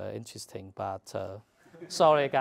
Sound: laugh

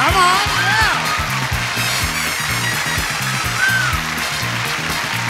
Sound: audience applauding

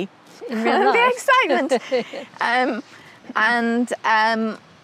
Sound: chuckles

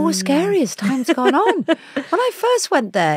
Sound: Giovanna laughs

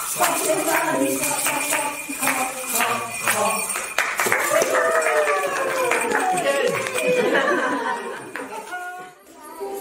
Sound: applause; laughter

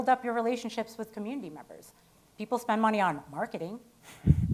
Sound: none

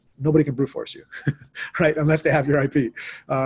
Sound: laughs

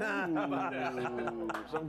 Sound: scattered Applause

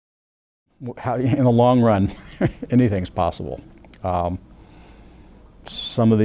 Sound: laughing

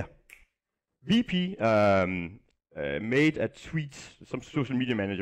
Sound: snaps fingers

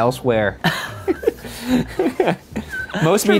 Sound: laughs

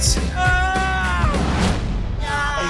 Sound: man yelling

